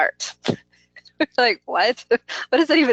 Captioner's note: laughs